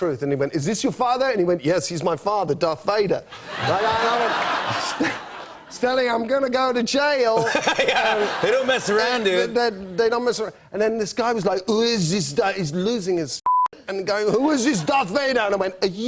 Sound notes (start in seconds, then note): 3.3 laughter; 7.3 laughter